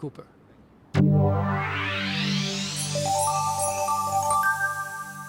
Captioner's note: digital tones